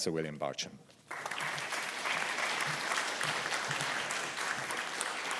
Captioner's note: audience applauding